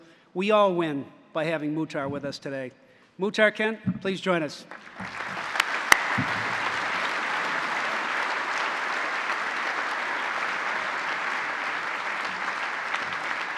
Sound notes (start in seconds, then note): 4.6 applause